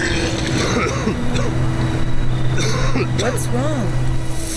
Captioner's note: vomiting